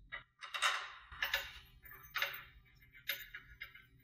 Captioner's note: metal clinking